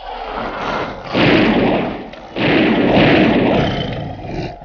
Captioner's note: guns firing